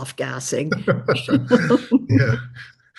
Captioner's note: both laughing